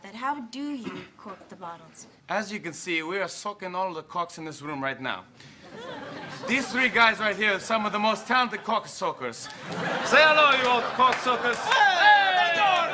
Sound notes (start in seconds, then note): 5.6 audience laughs